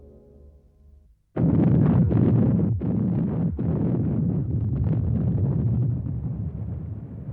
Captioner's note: explosions